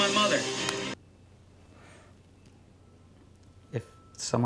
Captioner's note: audio stops